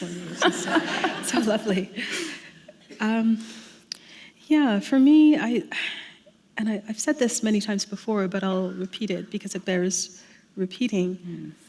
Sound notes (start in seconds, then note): 0.2 laughter